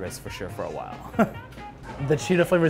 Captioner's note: laughs